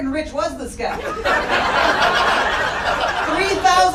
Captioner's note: audience laughing loudly